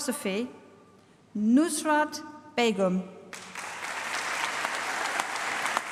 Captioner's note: applause